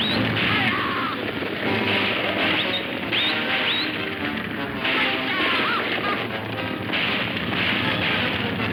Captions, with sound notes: (man whistling) Hatcha, ha-ah! (guns firing)